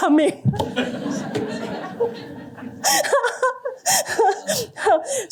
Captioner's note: laughter